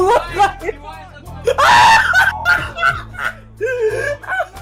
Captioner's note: laughing